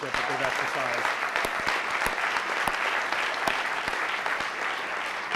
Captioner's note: audience applauding